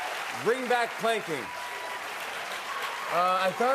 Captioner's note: cheering and applause